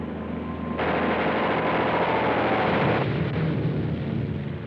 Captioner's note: gunfire blasting